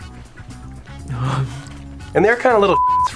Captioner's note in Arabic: يضحك